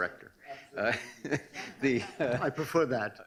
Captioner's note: laughing